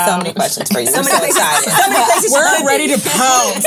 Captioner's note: all laugh